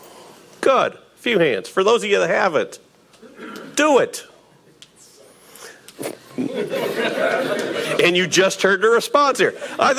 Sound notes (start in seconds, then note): 6.2 audience laughing